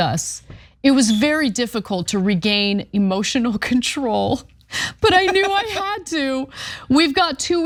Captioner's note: laugh